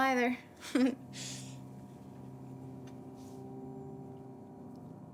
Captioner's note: Charlie giggles